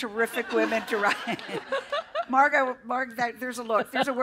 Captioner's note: laughter